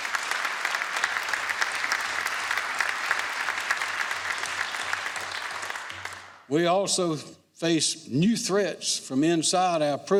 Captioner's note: applause